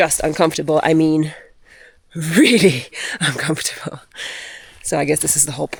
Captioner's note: laughs